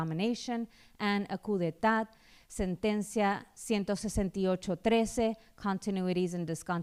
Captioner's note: speaking spanish